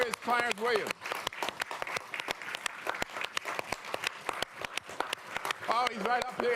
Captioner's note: applause